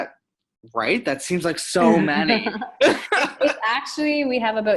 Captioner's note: laughing